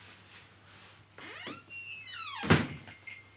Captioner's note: door creaks; door thuds; bells clanging